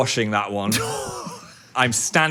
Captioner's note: Dan laughs